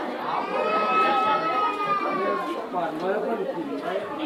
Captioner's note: kid cries